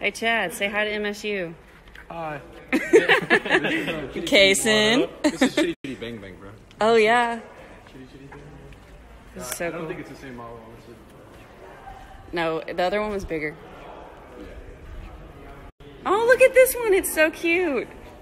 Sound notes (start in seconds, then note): 2.7 laugh; 5.2 laughs